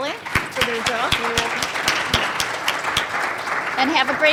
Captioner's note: applause